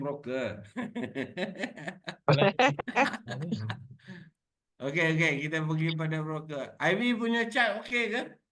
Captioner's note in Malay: Ketawa